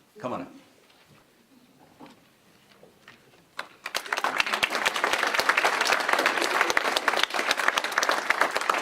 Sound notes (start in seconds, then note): 5.3 applause